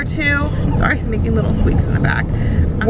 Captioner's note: squeaking